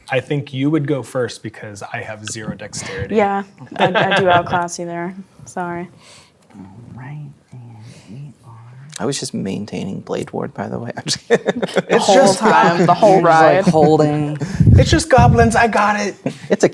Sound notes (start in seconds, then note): 3.6 laughing; 11.0 laughs